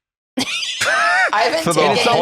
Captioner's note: laugh